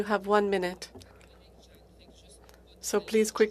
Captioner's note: speaking FRENCH